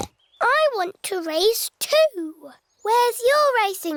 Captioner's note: snorts